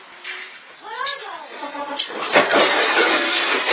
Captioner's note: children mumbling